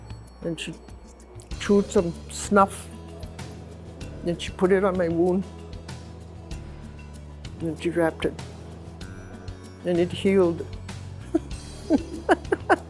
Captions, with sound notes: and she chewed some snuff, then she put it on my wound, and she wrapped it, and it healed. (laughs)